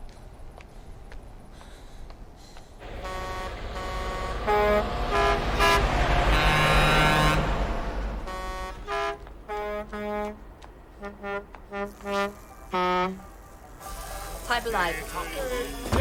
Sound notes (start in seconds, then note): 2.8 horns honking